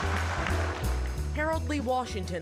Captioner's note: crowd laughing